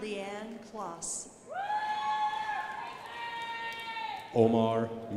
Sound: crowd applauding

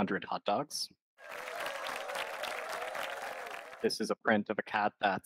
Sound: applause

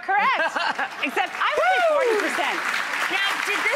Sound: audience claps

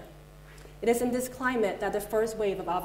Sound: none

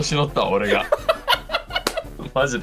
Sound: Gojo laughs

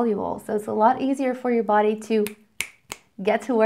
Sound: snaps fingers

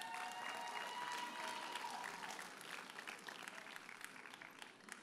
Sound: audience cheers and applauds

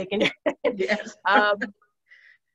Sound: laughs

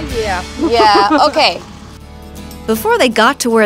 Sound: laughs

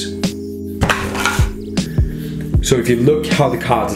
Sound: cards clacking

